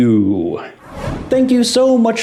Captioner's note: whoosh